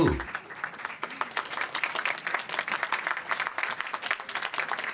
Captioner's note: applause